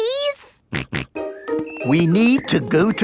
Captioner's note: snorts